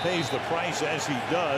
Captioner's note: whistle; cheering